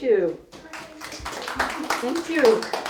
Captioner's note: audience applauding